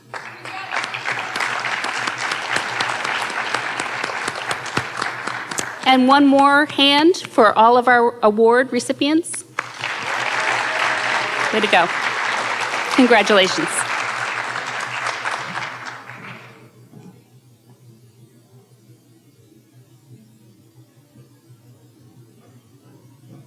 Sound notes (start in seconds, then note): 0.0 audience cheering and applauding; 9.5 audience cheering and applauding; 11.8 audience applauding